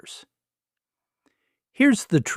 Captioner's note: pause